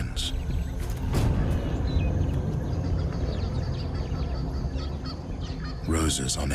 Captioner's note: birds chirping; dramatic music